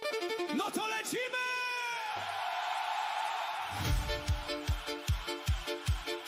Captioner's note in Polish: krzyk